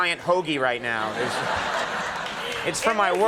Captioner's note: audience laughing